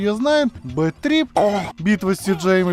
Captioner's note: augh